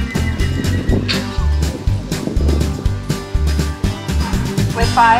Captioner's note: announcer calls scores; music ends with flourish